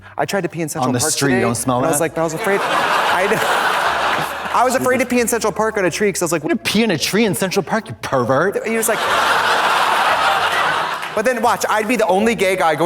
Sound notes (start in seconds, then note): 2.0 audience laughs; 8.6 audience laughs